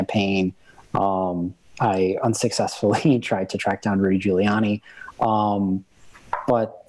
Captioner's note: chuckle